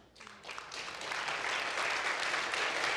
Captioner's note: applause